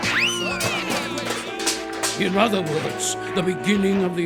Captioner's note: clanking